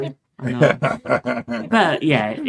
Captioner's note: laughing